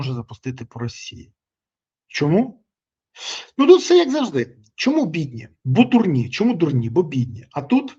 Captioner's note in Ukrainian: сопіння